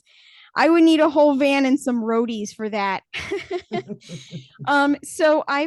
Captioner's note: laughs